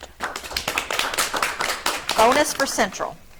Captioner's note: audience clapping